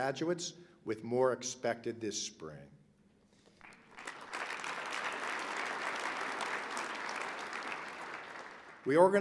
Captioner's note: applause